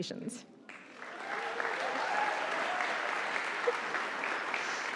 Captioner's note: audience applauding